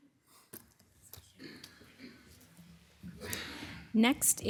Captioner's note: person coughing